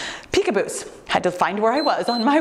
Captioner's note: timer beeps